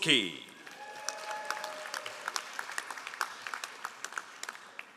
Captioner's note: all applauding